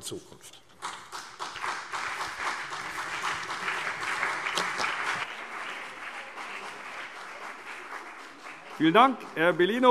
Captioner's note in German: Beifall CDU und BÜNDNIS 90/DIE GRÜNEN